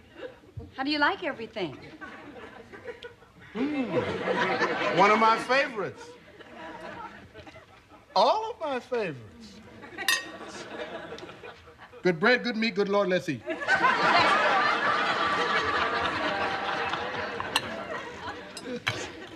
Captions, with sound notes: HOW DO YOU LIKE EVERYTHING? MMM, ONE OF MY FAVORITES. ALL OF MY FAVORITES. [spoon clinking] GOOD BREAD, GOOD MEAT. GOOD LORD, LET'S EAT. LESTER. [chuckles]